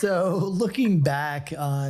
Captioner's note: laughing